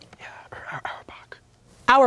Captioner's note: whispering